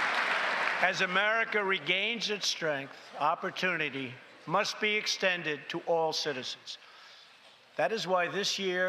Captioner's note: applause